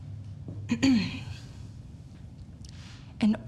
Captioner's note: Ms. Hemlock clearing throat